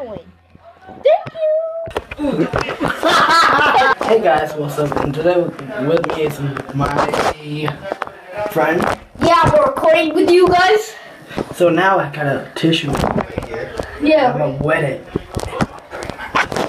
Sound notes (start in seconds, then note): 2.1 laughs